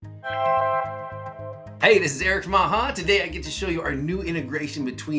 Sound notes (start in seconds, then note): 0.2 graphic chiming